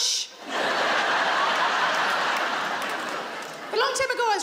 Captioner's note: audience laughs